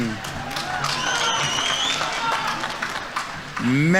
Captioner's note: audience members cheering; audience applauding